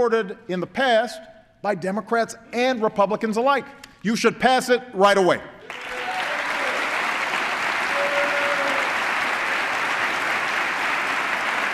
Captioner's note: applause